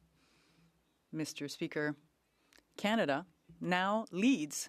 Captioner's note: speaking French